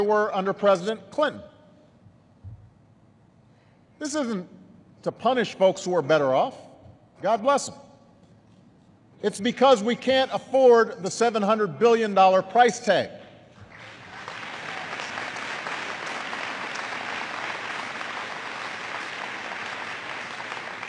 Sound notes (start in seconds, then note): 13.6 applause